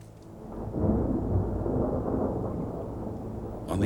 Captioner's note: thunder